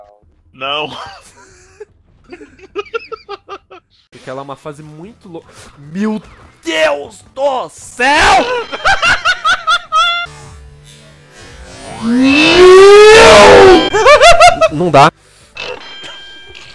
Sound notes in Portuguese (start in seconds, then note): 8.7 Risos; 13.5 Risos desenfreados